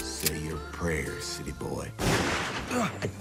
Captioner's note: cocks gun; gunshot